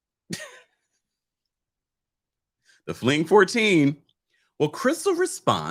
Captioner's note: giggles